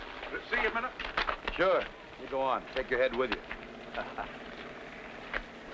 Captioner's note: laughs